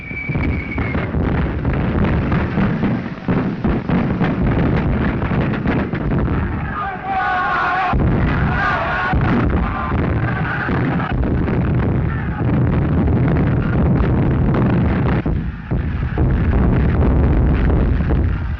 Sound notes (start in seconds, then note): 0.4 guns firing; 7.6 all yelling